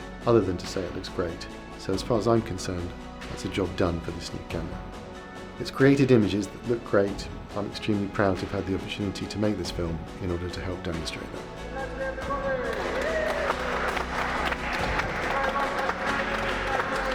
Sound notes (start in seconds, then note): 12.5 crew cheering; 14.1 people clapping